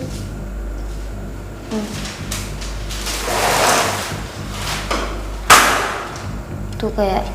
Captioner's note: voices of objects falling